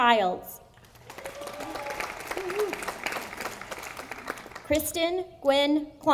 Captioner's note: audience applauding